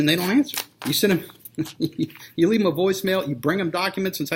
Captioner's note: laughs